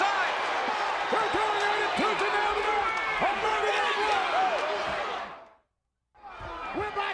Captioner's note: speaks faintly